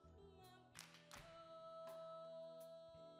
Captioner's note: claps